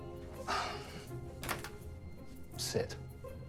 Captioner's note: sighing